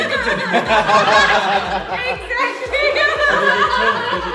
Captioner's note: laughs